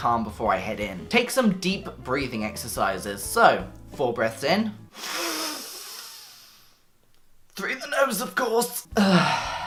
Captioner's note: inhales; exhales